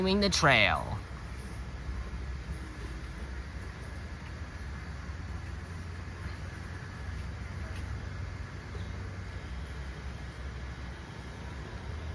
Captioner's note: walking in ambience